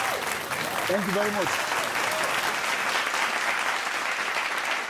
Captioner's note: applause